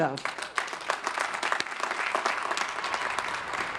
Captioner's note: crowd applauding